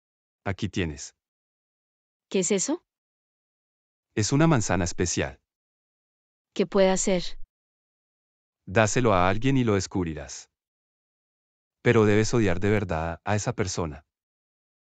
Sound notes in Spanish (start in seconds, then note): none